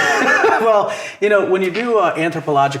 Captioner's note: laughs